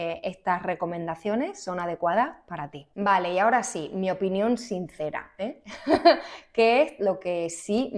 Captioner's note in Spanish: risas